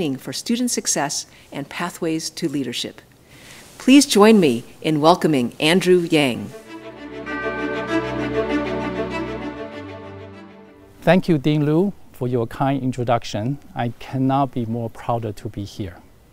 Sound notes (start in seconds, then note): 6.5 bright orchestral music; 6.8 bell dings